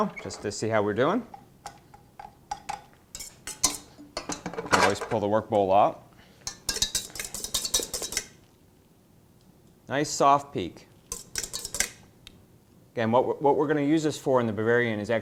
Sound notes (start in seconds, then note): 7.1 metal clanking